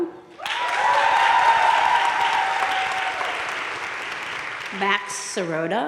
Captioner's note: crowd cheering and applauding